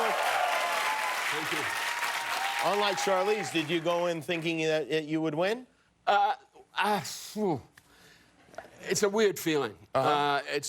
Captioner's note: cheers and applause